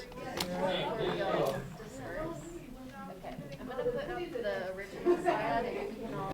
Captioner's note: conversación de fondo